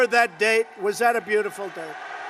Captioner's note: applause